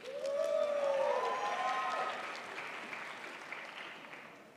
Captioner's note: crowd applauds